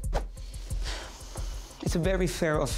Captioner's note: sighs